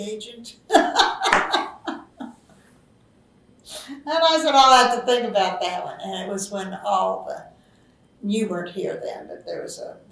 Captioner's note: laughs